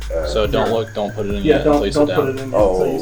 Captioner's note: laughing